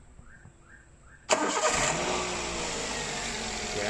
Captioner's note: engine cranking sound